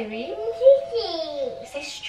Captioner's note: baby mumbling